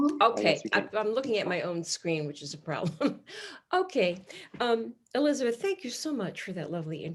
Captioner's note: laughs